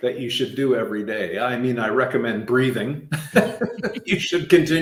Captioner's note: laughing